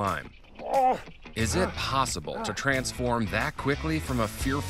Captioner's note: grunts